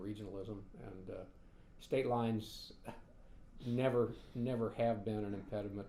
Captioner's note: sighs